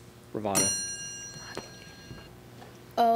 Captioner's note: ding